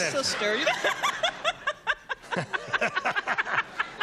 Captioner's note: laughs hysterically; laughter